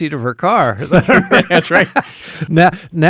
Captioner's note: laughing